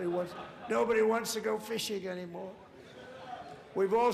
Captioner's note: laughter